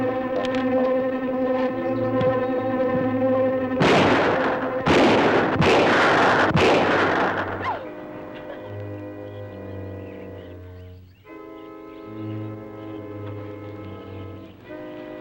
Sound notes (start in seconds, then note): 0.1 tense music; 3.8 shots firing; 7.6 Pat sobbing; 10.1 gentle music